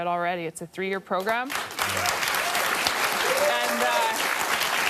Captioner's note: applause